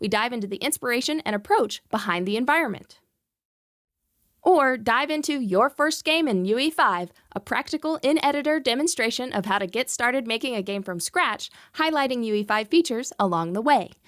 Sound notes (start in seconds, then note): none